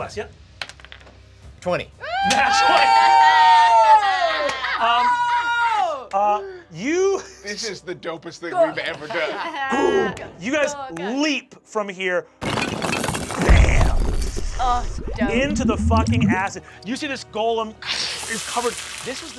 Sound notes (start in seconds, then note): 1.0 die clacks; 2.0 cheering; 10.7 mimics booming; 12.4 stone crumbles